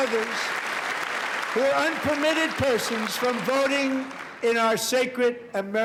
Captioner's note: applause